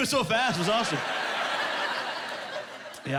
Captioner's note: laughing